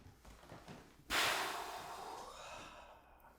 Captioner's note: sighs